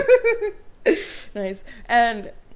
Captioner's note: laughs